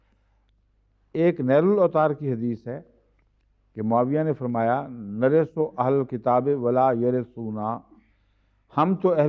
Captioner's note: Arabic